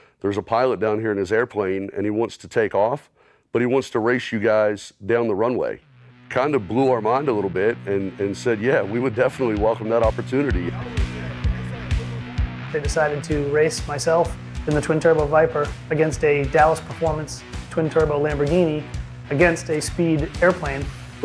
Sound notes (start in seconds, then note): 10.9 people chattering; 10.9 upbeat music